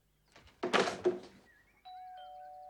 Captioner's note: phone bangs; doorbell ringing